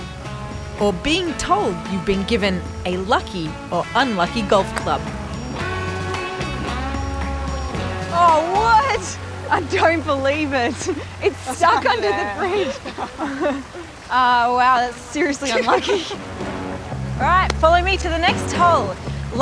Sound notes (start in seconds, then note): 13.9 laughs